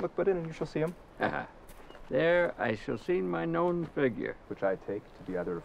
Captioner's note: laughs